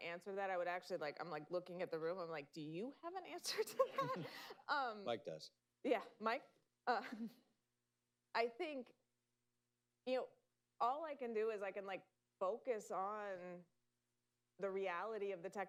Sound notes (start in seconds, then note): 3.5 laughter